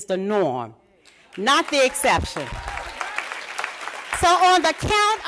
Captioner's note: applause